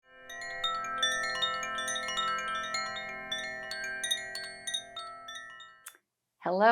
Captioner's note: gentle chimes